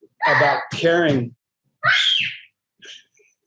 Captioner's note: child screaming; laughs